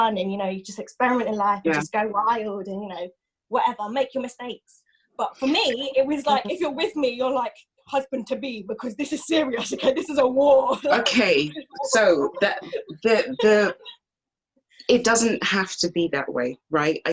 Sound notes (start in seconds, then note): 9.1 laughs